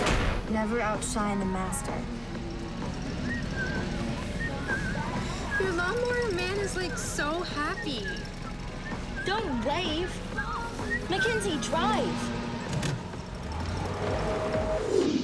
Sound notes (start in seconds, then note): 3.1 whistling